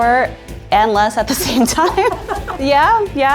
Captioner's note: laughs